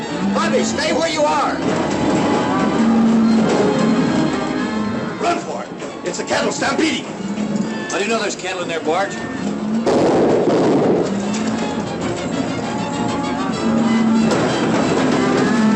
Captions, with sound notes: Bobby, stay where you are! [ THUNDER ] Run for it! It's a cattle stampede! How do you know there's cattle in there, Bart? [ GUNSHOTS ] [ FRANTIC MUSIC ]